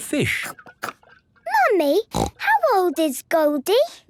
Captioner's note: snorting